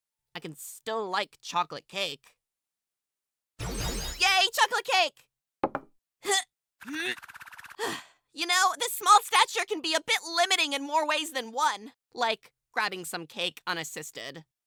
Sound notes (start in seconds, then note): 6.2 bowbot strains; 7.5 sighs